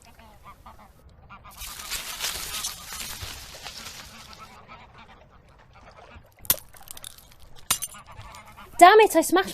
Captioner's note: Ophelia stumbles. Sound of glass breaking